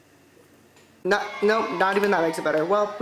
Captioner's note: people cheering